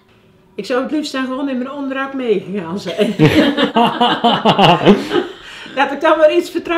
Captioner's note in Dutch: lachen